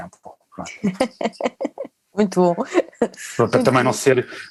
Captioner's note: laughs